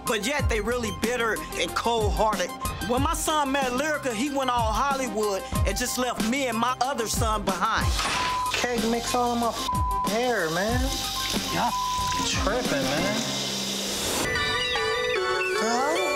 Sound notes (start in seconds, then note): 8.6 beep; 14.0 upbeat music